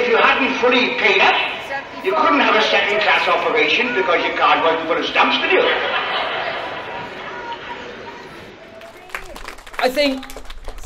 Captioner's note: applause